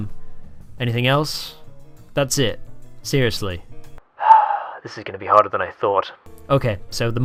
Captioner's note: sigh